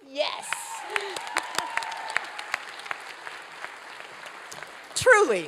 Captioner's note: applause